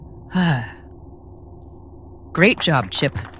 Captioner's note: amy sighs relievedly